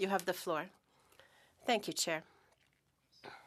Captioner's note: speaking French